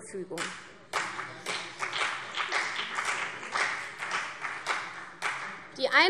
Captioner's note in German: Beifall CDU und BÜNDNIS 90/DIE GRÜNEN